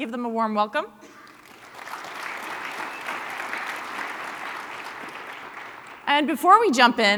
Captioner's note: applause